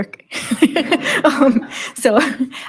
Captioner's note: laughs